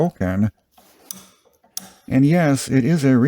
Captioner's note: ratchet clicks